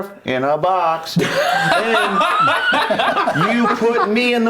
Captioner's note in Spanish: risas